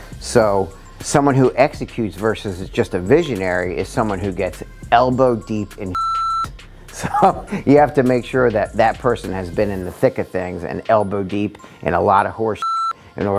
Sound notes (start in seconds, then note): 5.9 beep; 12.6 beep